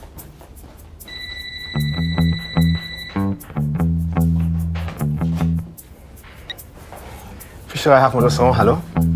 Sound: phone rings

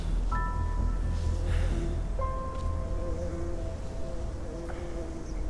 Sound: bee buzzing

